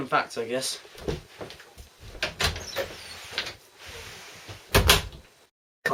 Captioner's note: sound of door opening and closing